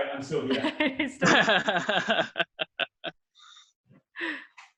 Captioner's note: laughing